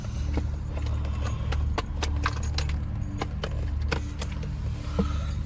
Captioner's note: briefcase closing; Ashlynn breathing heavily